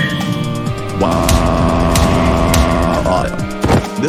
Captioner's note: screaming